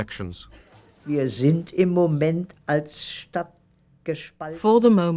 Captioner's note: speaking german